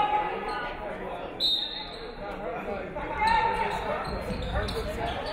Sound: referee whistles

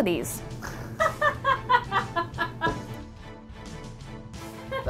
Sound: crew laughing; intense music

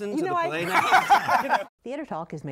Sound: laughter

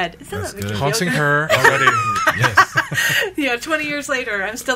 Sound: everyone laughing

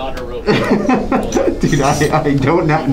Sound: laughing

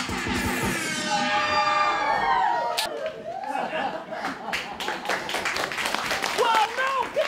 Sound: audience cheering

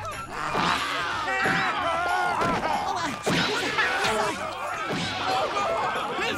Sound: screaming

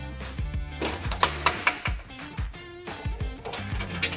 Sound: clip rattles

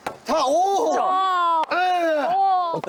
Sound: hitting

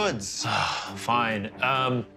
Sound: sighs

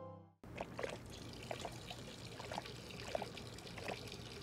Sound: gentle music; water burbling

